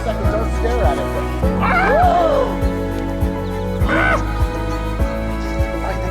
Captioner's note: gasping, yelping, exclaiming